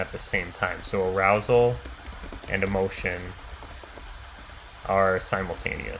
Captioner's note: keyboard clicking